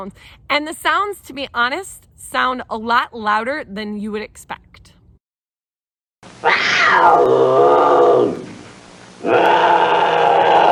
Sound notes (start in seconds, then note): 5.7 animal Noises